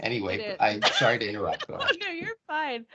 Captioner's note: laughing